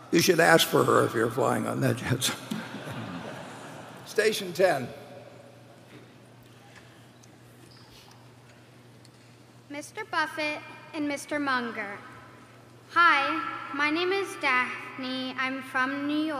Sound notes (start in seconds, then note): 2.4 laugher